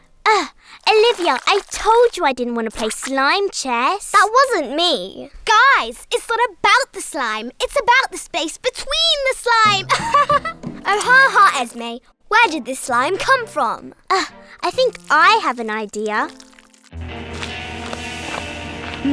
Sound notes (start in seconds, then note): 9.8 laughing; 16.4 dramatic music